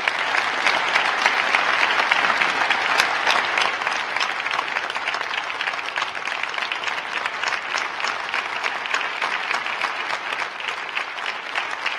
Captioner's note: crowd applauding